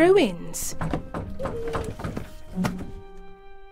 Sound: knocking on door

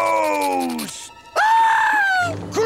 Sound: screaming

